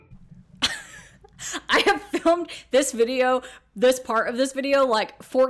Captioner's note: chuckles